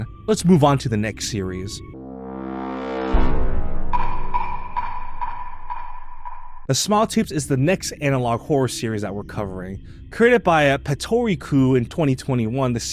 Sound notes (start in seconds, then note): 6.6 dramatic sound effects